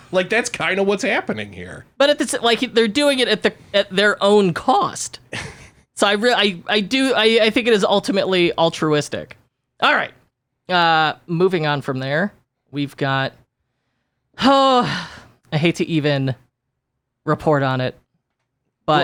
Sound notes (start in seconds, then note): 5.2 giggles; 14.5 yells